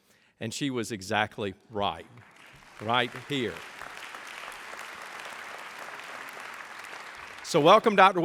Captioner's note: applause